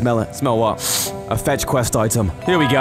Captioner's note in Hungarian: Szaglás